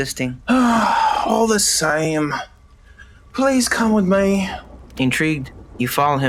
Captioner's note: sigh